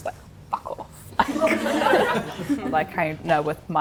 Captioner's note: everyone laughs